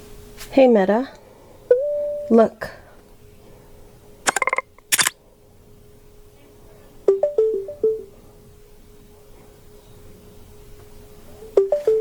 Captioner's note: camera presss and click sound